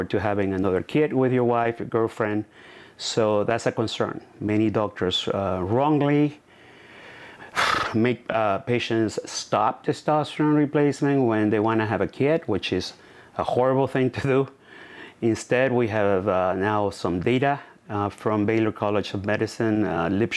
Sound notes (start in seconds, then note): 7.4 sighs